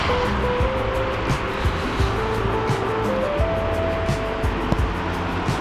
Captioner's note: wind Blowing